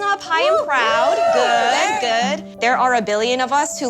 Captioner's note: cheering